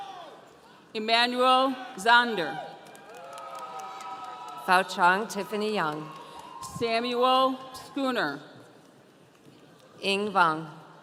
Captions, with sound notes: - Emmanuel Zander. (audience cheering) - Foajang Tiffany Young. - Samuel Schooner. - Ing Vong.